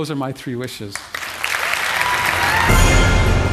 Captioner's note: applause